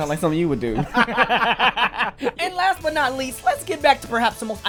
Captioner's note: laughter